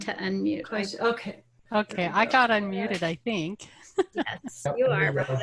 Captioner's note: laughs